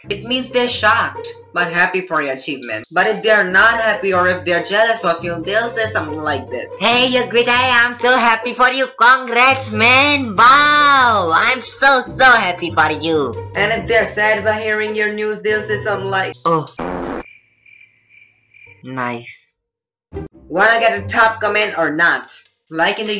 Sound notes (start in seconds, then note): 16.8 farts, Intense Pause